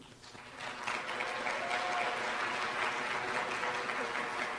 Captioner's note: applause